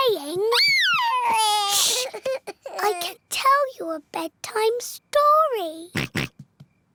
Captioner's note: cries; oinks